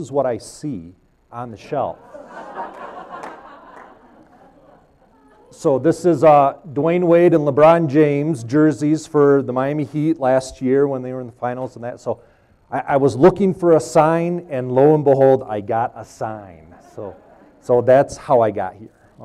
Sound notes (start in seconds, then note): 3.6 laughs